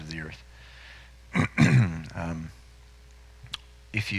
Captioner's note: clears throat